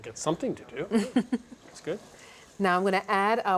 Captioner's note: chuckles